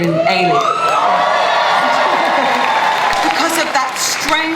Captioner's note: audience cheering and applause